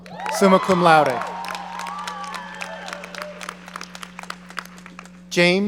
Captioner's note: audience cheering